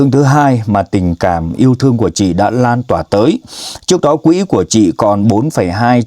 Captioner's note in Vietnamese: khịt mũi